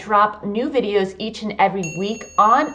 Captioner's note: bell dings